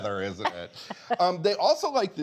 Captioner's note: laughs